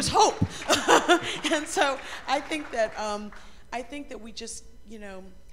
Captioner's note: applause